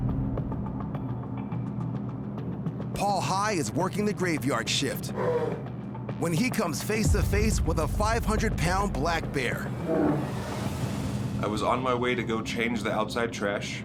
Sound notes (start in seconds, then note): 5.1 bear roars; 9.6 bear growls